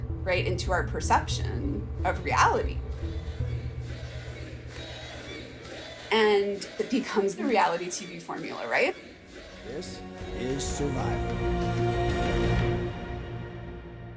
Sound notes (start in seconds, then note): 2.4 soundbite of tv show, "jerry springer"; 4.5 chanting; 9.4 soundbite of tv show, "survivor"